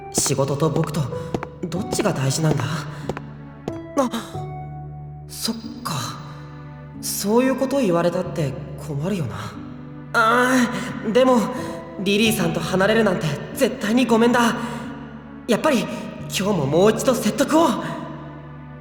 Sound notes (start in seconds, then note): 3.9 gasp